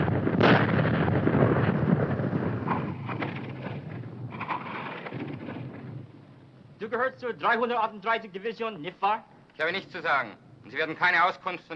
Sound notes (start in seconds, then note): 7.0 speaking foreign language